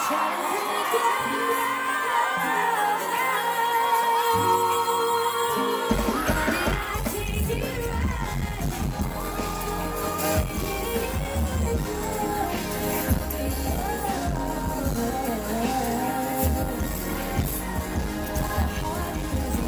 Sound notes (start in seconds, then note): 4.1 fans screaming; 7.9 fans screaming; 9.7 repeats do-do-do over and over